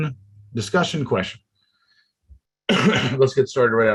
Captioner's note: coughs